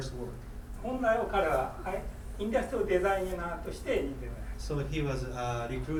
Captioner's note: speaking in foreign language